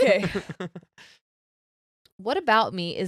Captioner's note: laughing